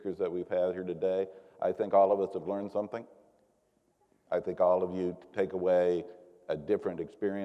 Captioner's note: none